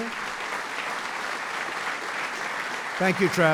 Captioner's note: applause